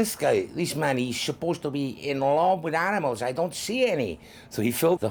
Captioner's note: imitates cuaron; normal voice